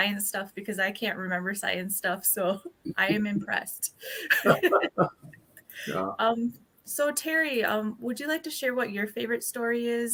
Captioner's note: laughter